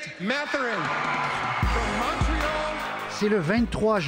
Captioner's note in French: acclamations